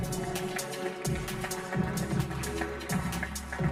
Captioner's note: applause